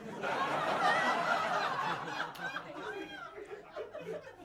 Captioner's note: crowd laughing